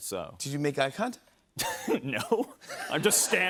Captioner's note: laughs